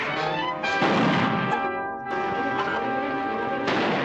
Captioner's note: chickens clucking